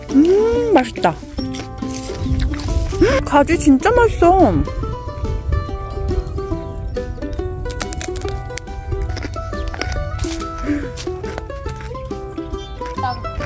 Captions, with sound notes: Mmm~ Tasty! Wow! Aubergine is so tasty! (Crunch!)